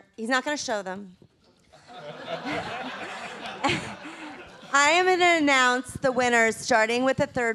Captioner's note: laughter